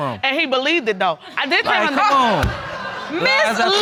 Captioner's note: audience laughing